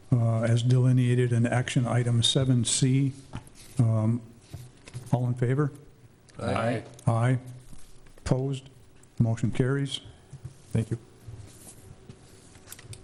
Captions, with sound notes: in action item 7C. All in favor? (multiple voices) Aye. Opposed. Motion carries. Thank you.